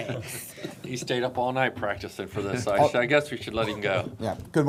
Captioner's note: laughter